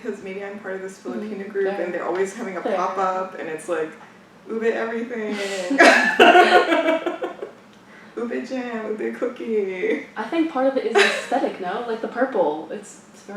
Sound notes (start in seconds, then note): 5.4 laughs